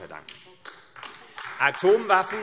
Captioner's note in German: Beifall AfD